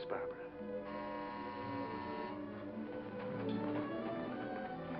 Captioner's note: doorbell buzzes